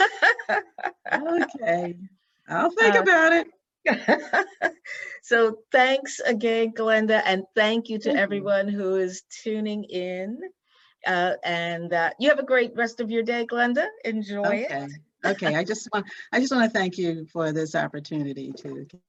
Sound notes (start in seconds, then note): 3.9 laughs